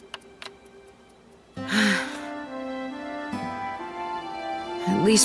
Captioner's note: sighs